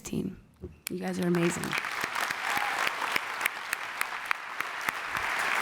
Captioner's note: applause